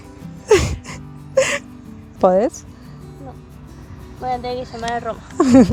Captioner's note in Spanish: risas